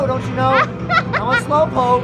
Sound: laughing

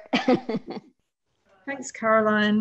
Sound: laughs

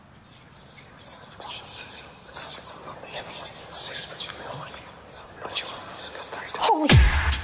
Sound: loud whispering

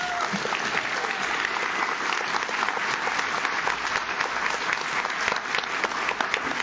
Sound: audience cheers; audience claps

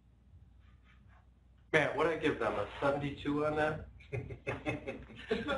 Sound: laughter

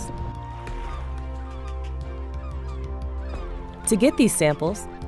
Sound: seagulls squawking

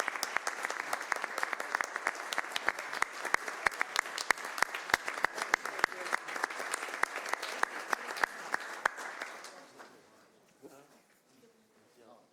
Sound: applause

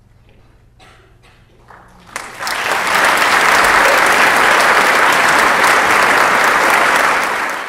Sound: applause

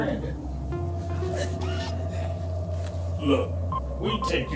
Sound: Max stammers and sighs

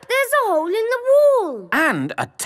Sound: none

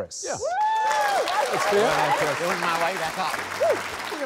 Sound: cheering, applause

